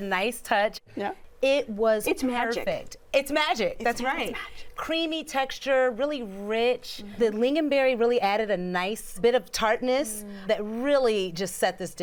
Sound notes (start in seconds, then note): none